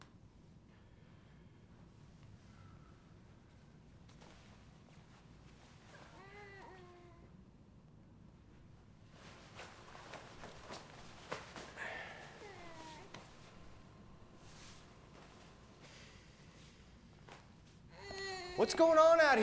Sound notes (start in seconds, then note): 4.4 Christopher sobbing; 4.4 vest rustling; 8.8 clothes rustling; 10.0 Addison softly groans; 12.7 Christopher sobbing in the background; 17.9 Christopher continues sobbing